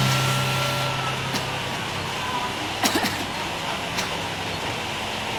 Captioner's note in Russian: начинает кашлять